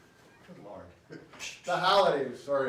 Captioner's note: laughs